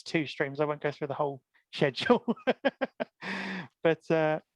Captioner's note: laughs